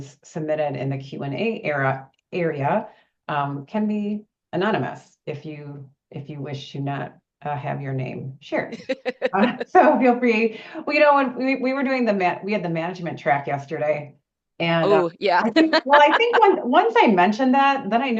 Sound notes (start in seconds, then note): 15.3 laughs